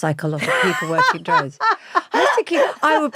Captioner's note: laughs